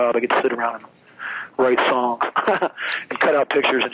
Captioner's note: laughs